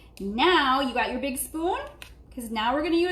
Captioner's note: none